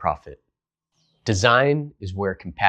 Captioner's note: beat